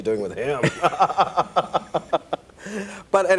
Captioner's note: laughs